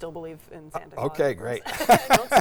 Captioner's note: laughs